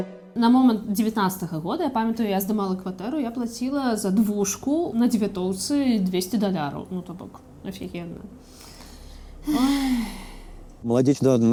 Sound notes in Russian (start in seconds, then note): 8.4 тяжело дышит